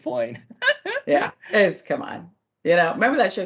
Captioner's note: laugh